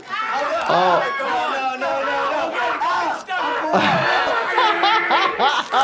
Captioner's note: Wee Man and Preston scream; Jackass crew laughing